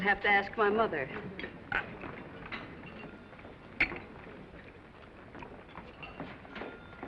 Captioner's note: crew chattering; cutlery clinking